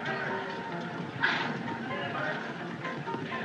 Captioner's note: horse Blusters